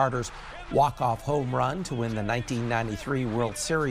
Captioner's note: applause